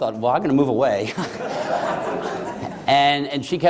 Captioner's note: laughter